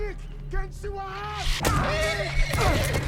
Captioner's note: shouts in foreign language